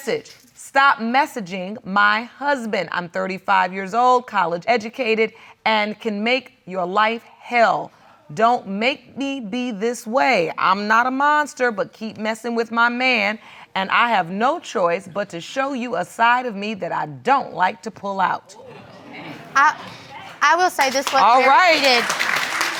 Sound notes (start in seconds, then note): 18.3 audience exclaiming; 19.8 audience applauding